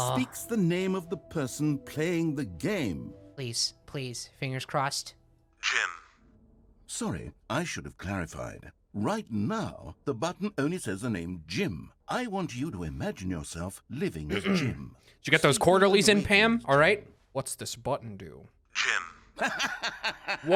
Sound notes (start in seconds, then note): 14.3 clears throat; 19.4 narrator laughs